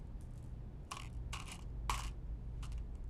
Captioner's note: balls continuing to drop